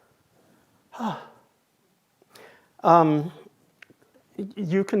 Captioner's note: sighs